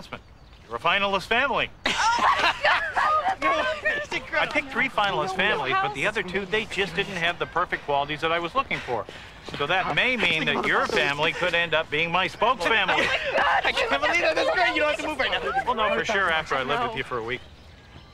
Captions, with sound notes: WHEN I MADE THE BIG ANNOUNCEMENT. YOU'RE A FINALIST FAMILY! [ EXCITED LAUGHTER ] I PICKED THREE FINALIST FAMILIES, BUT THE OTHER TWO, THEY JUST DIDN'T HAVE THE PERFECT QUALITIES THAT I WAS LOOKING FOR. SO THAT MAY MEAN THAT YOUR FAMILY COULD END UP BEING MY SPOKESFAMILY. I CAN'T BELIEVE IT! THAT'S INCREDIBLE! YOU DON'T HAVE TO MOVE NOW. WE'LL KNOW FOR SURE